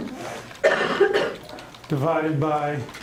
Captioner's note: coughing